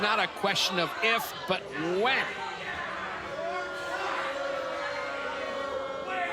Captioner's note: crowd cheers